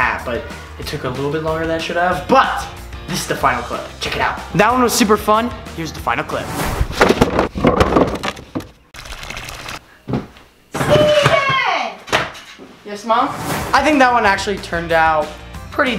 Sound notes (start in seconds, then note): 6.4 swooshing; 7.4 wheels rolling; 9.0 water splashing